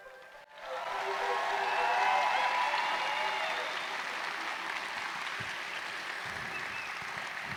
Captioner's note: applause